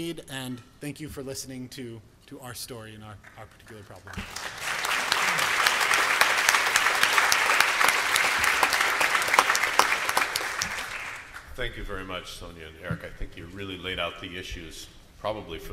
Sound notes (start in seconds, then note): 3.2 applause